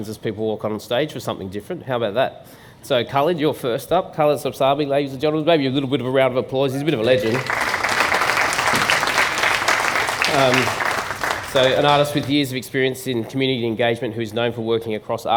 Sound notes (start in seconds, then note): 8.7 applause